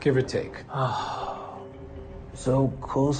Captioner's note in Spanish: Suspiro